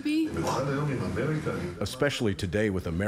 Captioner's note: speaking in hebrew